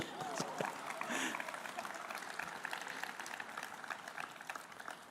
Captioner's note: applause